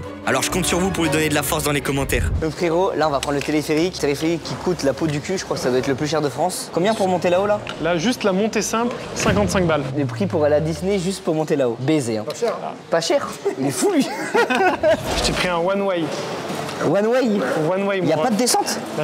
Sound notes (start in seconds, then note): 13.2 laughs